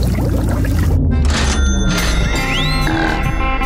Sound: dinging

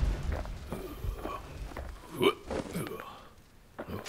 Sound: snake grunting

